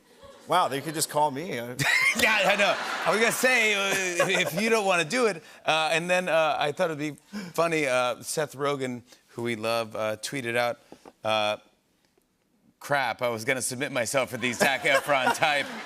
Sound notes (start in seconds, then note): 1.8 laughs